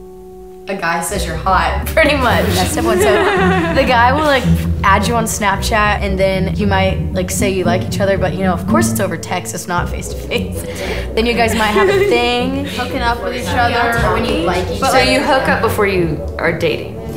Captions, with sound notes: A guy says you're hot. Pretty much. [Laughter] -A guy says "What's up?" The guy will like, add you on Snapchat and then you might like say you liked each other, but you know, of course it's over text. So, it's not face-to-face. Then you guys might have 'a thing'. Hooking up with each other. -Know when you like each-- So, you hook up before you are dating?